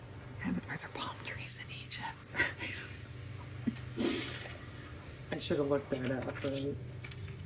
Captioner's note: laughs